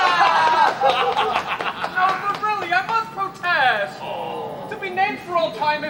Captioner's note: Will gags, others cheer; group awws